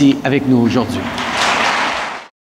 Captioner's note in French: Applaudissements